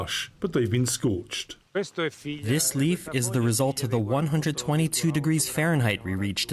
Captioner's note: through translator